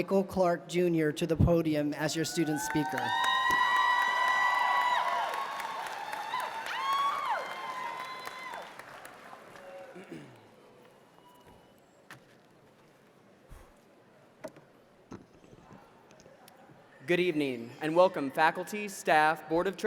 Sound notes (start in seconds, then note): 2.4 applause